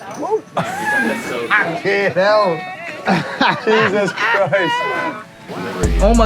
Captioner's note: laughing